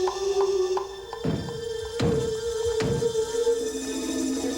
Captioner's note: knocking